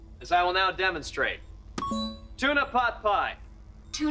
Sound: beeping

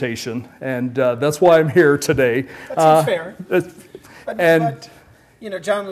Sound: laugh

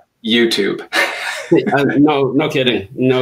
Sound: laughing

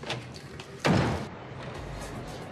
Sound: door slams

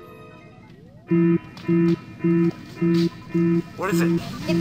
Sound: alarms blaring

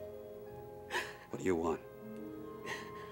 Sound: Gerta sobs

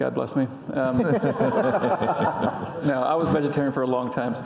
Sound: audience laughing

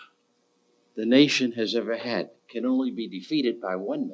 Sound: none

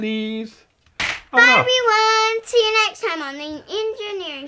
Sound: voiceover

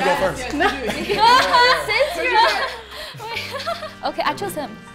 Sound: group chatters

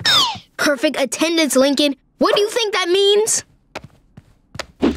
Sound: none

